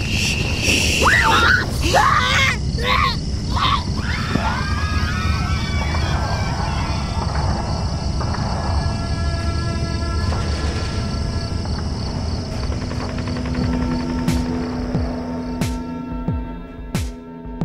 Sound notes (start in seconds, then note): 1.0 child screaming; 4.4 children screaming; 8.5 guns firing; 14.7 soft pop music